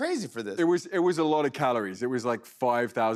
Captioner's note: normal voice